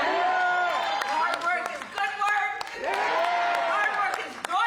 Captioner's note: cheering